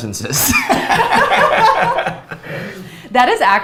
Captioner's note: both laughs